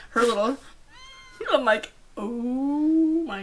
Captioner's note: girl squealing